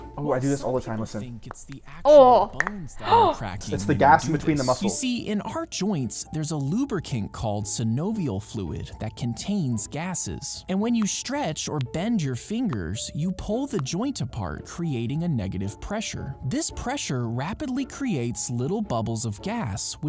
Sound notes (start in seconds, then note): 2.5 knuckles popping; 3.0 gasping